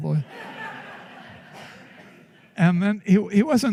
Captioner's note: laughter